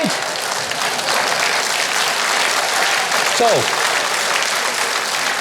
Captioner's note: audience applauding